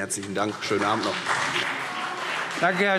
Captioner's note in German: Beifall CDU und BÜNDNIS 90/DIE GRÜNEN